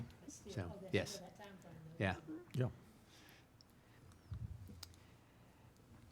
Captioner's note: speaking without microphone